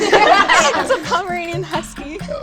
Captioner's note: girls laughing